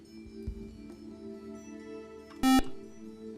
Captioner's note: buzzer